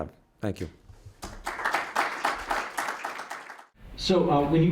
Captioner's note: applause